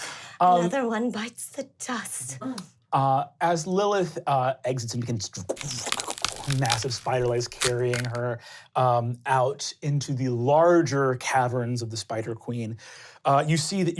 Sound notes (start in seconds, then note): 5.5 cracking